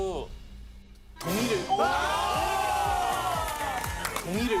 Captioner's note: cheering